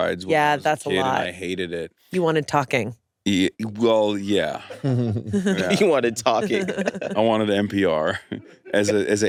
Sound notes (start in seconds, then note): 4.2 laughs